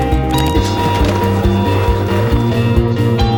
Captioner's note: Coke tumbling from machine